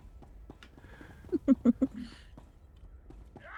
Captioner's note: laughing